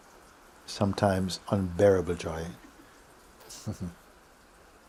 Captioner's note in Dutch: lacht